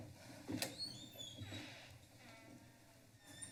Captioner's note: door creaks